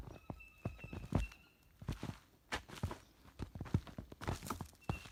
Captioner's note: boots crunching